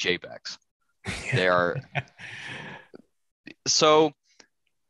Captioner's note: laughter